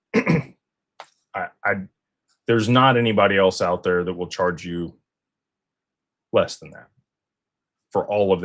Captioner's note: clears throat